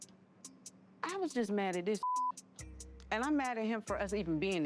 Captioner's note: beep